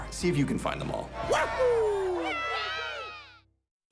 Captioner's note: cheering